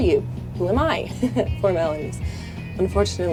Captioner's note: chuckles